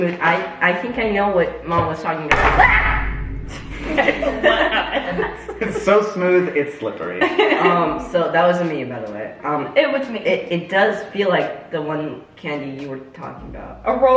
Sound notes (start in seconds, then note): 2.3 chocolate slams on table; 2.6 screams; 3.6 family giggles